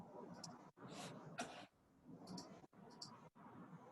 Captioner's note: mouse clicks